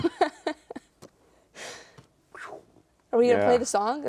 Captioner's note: laughing; imitates air whooshing